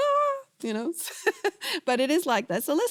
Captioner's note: laughs